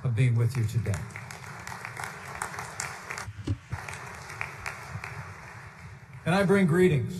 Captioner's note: applause